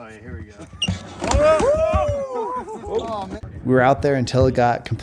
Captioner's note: cheering